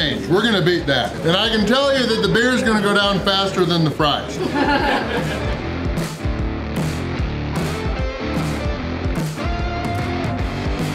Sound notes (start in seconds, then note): 4.2 crowd laughter